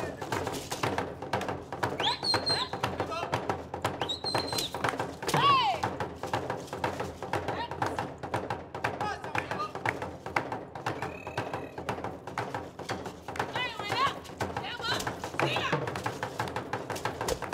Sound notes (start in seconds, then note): 0.4 drums beating; 1.9 shouting and whistling; 4.3 drums beating and beads rattling; 8.2 drums beating; 8.8 hands clapping; 13.2 drums beating and hands clapping; 17.3 drums beating and beads shaking